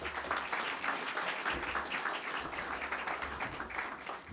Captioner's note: audience clapping